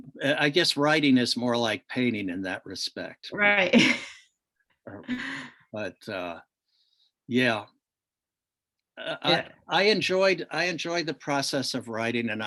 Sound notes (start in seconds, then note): 5.1 laughs